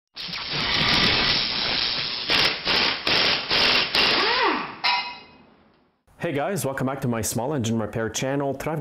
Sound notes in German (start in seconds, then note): 2.2 Bohrgeräusche